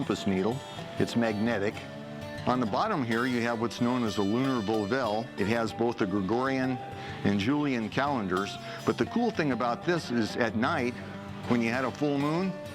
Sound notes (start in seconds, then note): none